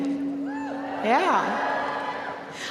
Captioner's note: students cheering